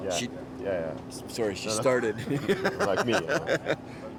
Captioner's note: chuckles